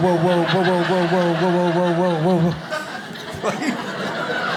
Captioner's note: audience laughs